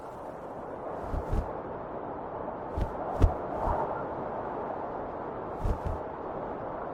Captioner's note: shirt flapping; wind whistling continues